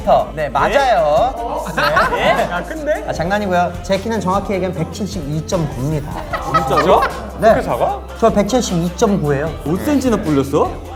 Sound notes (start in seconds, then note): 8.1 confident